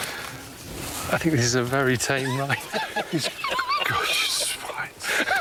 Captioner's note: laughs